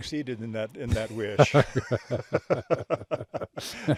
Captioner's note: both laughing